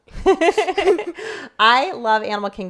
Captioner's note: laughing